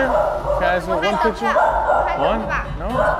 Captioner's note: non-english speech